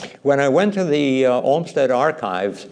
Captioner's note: none